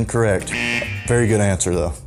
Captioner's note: buzzer